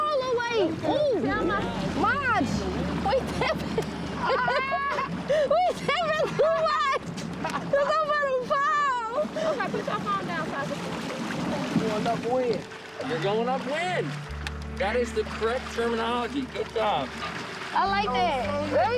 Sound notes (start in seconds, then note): 2.8 group chatting; 7.9 laughing